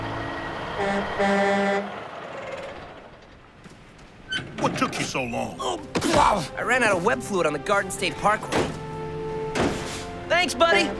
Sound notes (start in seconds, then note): 0.6 truck horn blaring